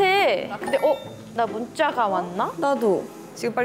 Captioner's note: ding